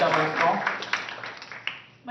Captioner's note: applause